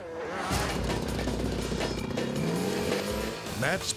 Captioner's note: motor rumbling